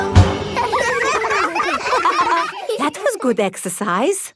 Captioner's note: all giggling